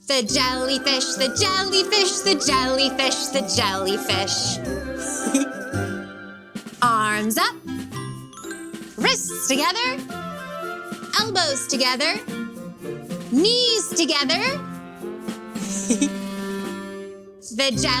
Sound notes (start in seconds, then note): 0.0 playful music; 5.0 chuckles; 15.6 chuckles